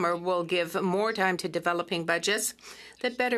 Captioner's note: speaking French